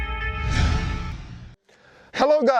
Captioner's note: logo whooshes